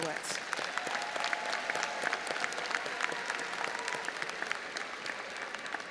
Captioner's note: audience applauding and cheering